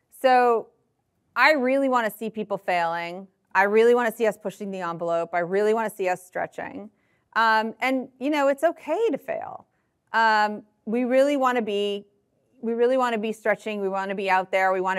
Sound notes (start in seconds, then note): none